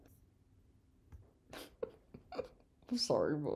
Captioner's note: laughing